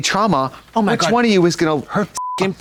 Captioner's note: beep